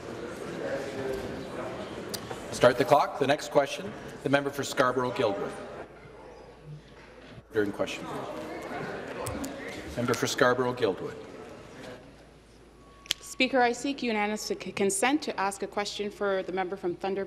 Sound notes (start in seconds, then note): none